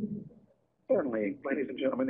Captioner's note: voiceover